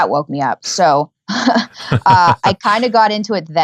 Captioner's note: laughing